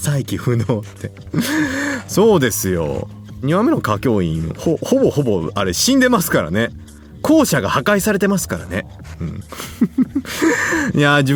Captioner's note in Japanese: 息をのむ音; 笑い; 咳払い